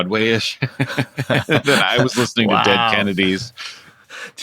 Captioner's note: laughter